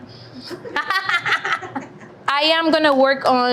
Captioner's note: laughing